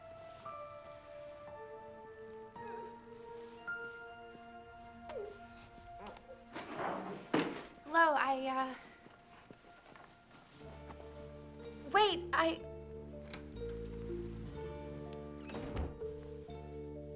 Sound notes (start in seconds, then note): 2.9 woman sobs; 6.8 crying